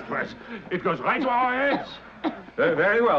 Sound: Margot coughing

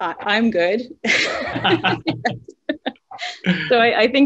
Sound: laughs

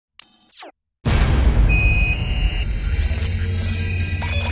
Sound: loud digital sounds

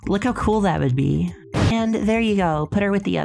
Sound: explosion

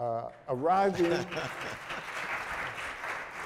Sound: applause

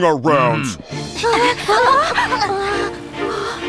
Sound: all panting

